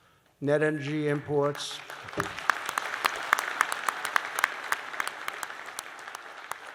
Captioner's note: applause